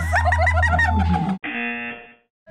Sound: buzzer

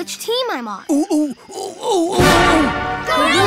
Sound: monkey sounds

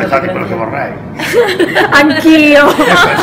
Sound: laughing

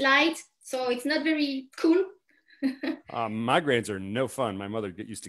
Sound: chuckles

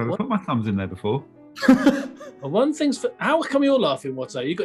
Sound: laughs

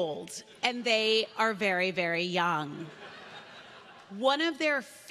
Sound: laughter

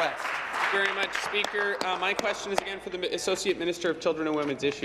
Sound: applause

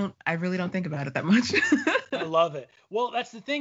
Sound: laughing

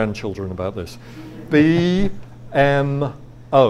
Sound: audience laughs

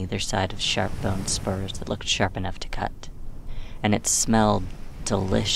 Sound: none

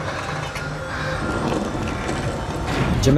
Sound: breathing heavily

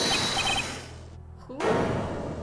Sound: hideous drilling noises

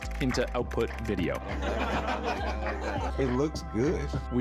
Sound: laughter

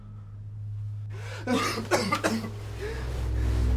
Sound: coughing

